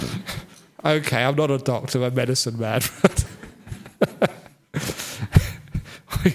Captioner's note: laughter